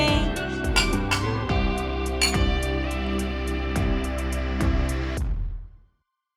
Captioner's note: upbeat synth music; glasses clinking